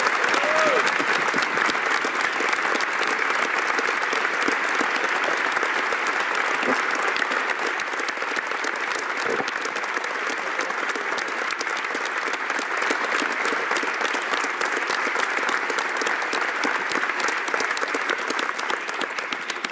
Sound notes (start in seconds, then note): 3.2 applause